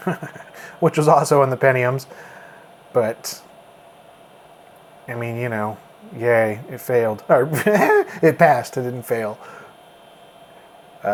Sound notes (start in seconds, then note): 7.3 laughs